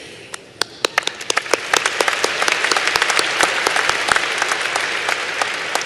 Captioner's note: applause